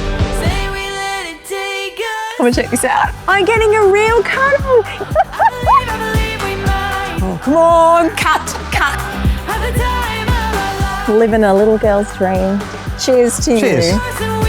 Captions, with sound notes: Say we let it take us I'm gonna check this out. I'm getting a real cuddle. (laughs) Come on, cut, cut. Livin a little girl's dream. Cheers to you. Cheers.